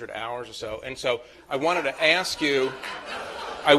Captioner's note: laughter